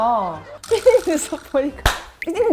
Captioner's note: fails to hold in laughter